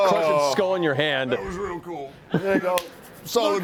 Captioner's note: strained voice